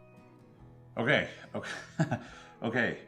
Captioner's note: chuckles